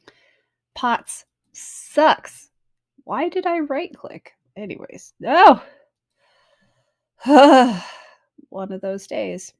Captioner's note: sighs